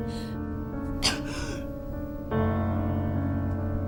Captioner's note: Ura coughs